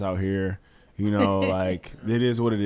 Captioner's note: laughs